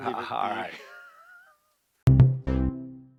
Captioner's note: laughing; upbeat musical flourish